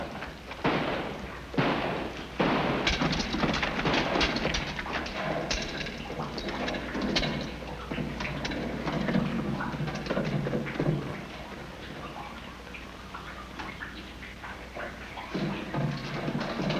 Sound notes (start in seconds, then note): 2.3 rifle fire in distance